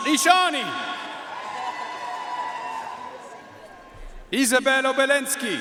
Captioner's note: audience cheering and applauding